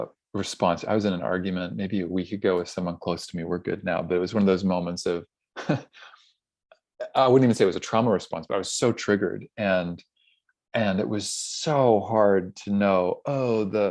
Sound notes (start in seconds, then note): 5.6 laughs